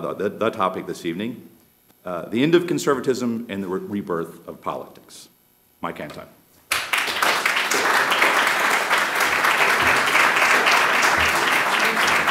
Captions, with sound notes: The topic this evening, "The End of Conservatism and the Rebirth of Politics." Mike Anton. [APPLAUSE]